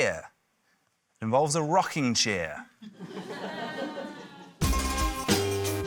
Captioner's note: laughter; curious music